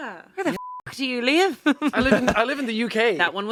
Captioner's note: beep